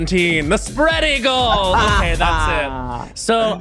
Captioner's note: laughs